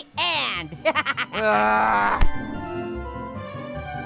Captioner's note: laughs; groans; upbeat music